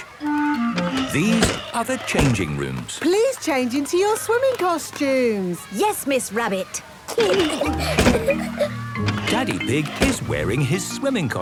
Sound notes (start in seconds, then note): 7.1 giggling; 11.2 snorts